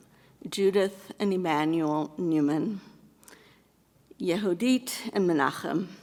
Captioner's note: speaking in foreign language